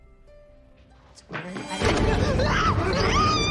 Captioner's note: screaming